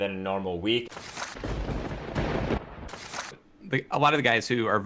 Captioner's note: lightning strikes